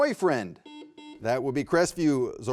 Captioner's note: buzzer buzzing